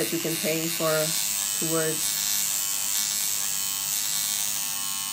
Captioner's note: machine buzzing